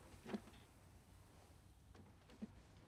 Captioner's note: none